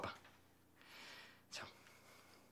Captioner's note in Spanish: susurrando